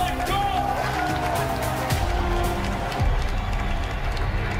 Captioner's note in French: applaudissements